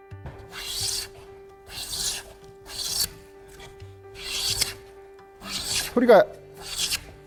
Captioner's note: planing sound